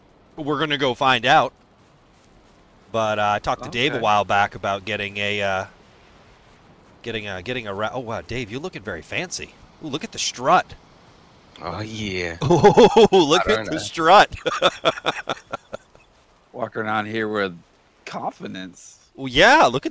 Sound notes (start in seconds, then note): 12.4 laughter